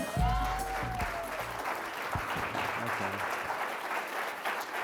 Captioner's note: audience applauding